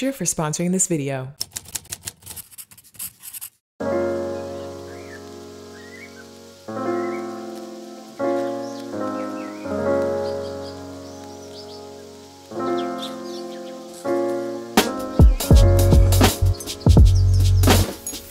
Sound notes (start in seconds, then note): 3.8 soft music; 9.6 birds chirping; 14.7 upbeat music